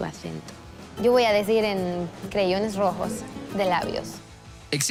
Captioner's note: latin accent